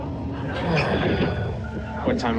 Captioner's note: sighs